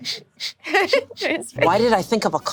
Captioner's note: laughs